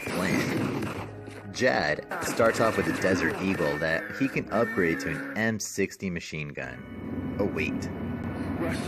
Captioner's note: machine-gun